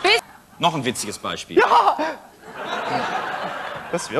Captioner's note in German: Gelächter